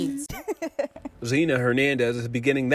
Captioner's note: laughs